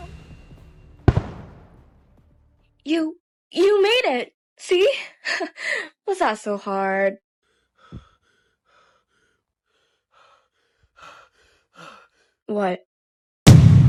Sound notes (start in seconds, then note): 5.0 laughter; 7.4 heavy Breathing